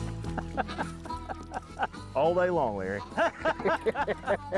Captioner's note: laughs